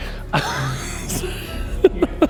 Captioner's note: convincing laugh